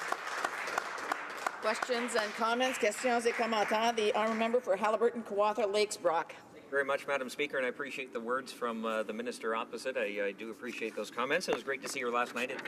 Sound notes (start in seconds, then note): 3.9 applause